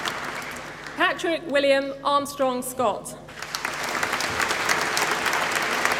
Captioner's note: applause